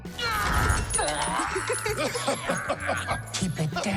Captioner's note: Tiny Tina laughing, and then someone else laughing